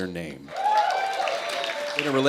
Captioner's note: cheers